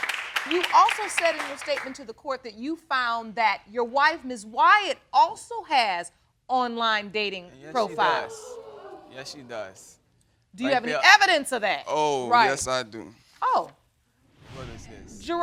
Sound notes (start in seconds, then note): 7.8 audience exclaims